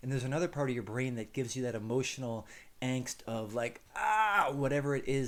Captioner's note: exclaims